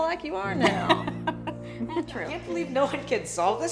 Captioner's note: laughs